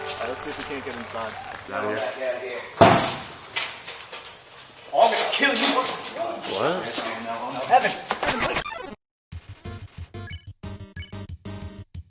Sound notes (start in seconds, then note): 2.8 kicks door open